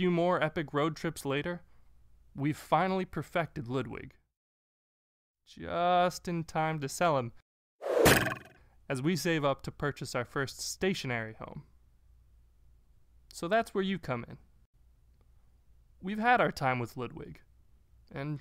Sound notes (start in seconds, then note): none